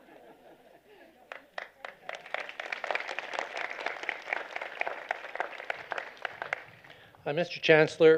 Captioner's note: applause